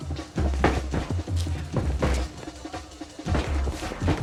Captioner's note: blows thudding